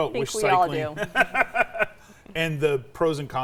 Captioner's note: laughs